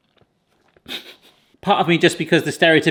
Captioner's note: laughs